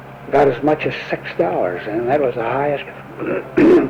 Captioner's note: clears throat